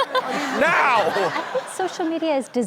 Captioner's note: audience laughs